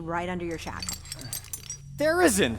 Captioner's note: chains rattling